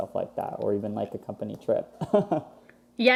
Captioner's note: laughs